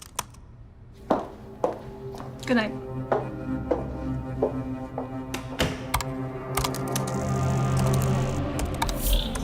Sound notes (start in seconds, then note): 3.3 typing sounds